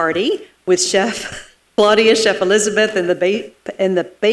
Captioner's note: chuckles